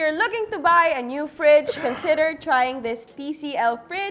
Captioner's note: laughs